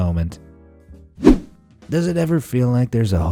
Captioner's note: whoosh